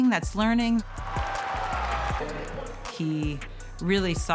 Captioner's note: spectators cheering